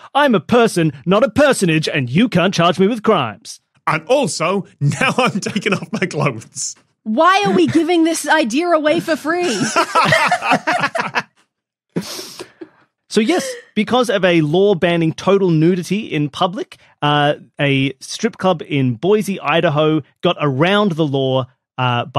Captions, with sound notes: I'm a person, not a personage, and you can't charge me with crimes." "And also now I'm taking off my clothes." Why are we giving this idea away for free? (group laughing) So, yes. Because of a law banning total nudity in public, a strip club in Boise, Idaho, got around the law